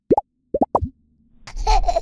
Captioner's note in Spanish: burbujas; risas de bebe